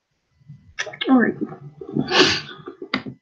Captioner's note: sNIFF